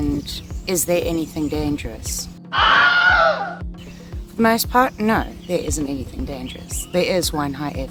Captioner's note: scream